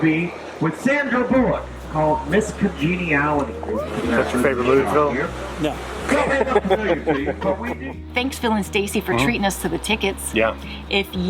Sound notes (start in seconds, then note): 6.1 laughter